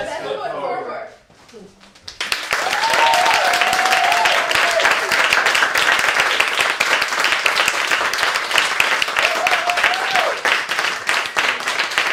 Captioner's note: applause